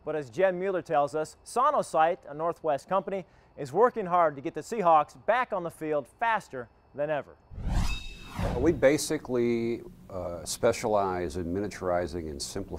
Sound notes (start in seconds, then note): 7.5 metal swooshing